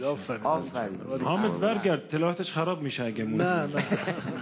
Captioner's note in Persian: خنده حضار